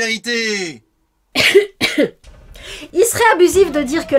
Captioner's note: coughs